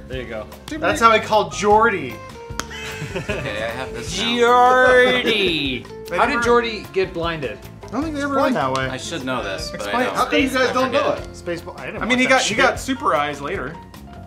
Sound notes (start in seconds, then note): 2.5 chest slap thud sound